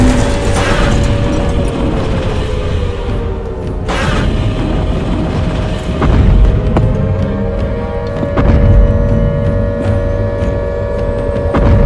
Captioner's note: loud explosions; Godzilla roaring and stomping loudly